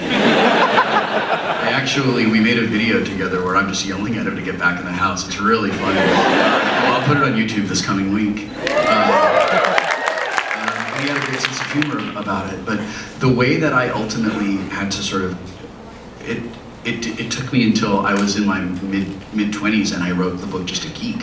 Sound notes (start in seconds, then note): 0.0 audience laughs; 8.5 audience applauds